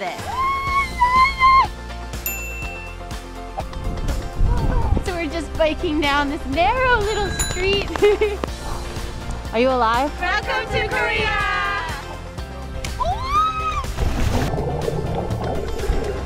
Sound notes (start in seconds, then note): 0.2 screaming; 13.0 screaming